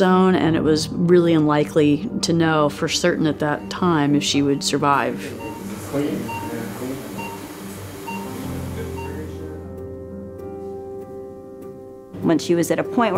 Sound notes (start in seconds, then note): 5.3 heart monitor beeping, indistinct conversation; 8.2 plaintive piano music